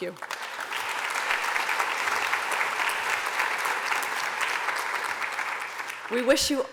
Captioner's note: applause